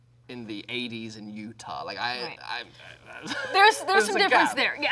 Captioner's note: stammers